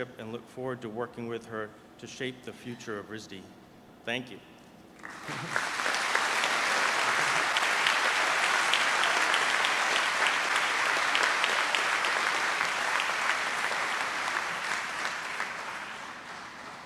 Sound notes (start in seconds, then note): 5.5 audience applauds